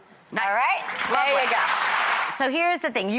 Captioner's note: applause